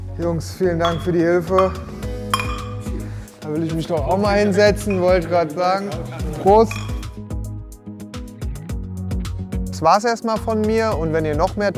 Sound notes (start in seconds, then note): 2.0 loose music; 6.6 beer bottles clink